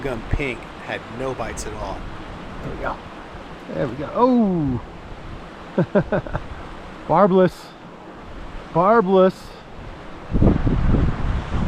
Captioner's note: laughing